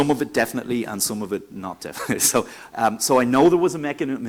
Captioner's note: laughs